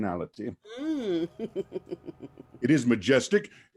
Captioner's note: chuckle